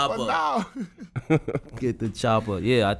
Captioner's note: laughing